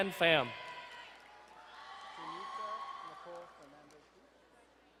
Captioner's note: distant cheering